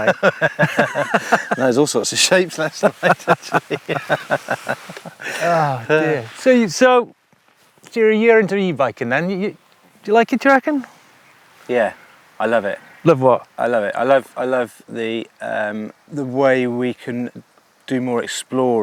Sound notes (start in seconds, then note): 0.0 both laugh